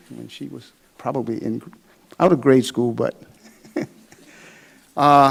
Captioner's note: laughs